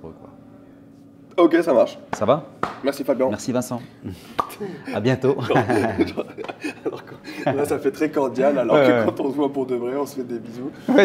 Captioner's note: laughs